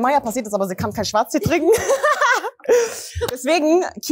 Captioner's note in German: Gelächter